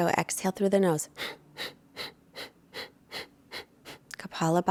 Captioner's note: exhaling loudly